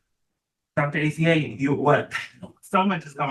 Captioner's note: laughs